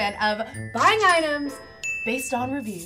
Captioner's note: bell pings